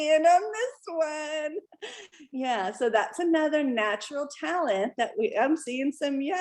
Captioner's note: laughter